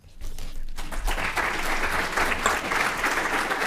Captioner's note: applause